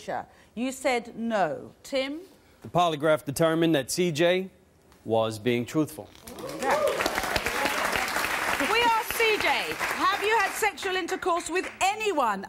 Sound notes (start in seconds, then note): 6.3 applause